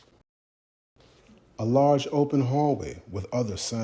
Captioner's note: voice resonating